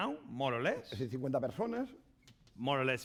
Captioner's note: speaking spanish